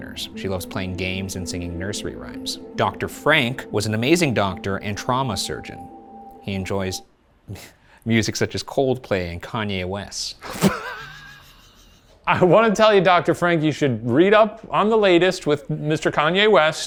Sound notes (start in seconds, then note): 10.5 laughs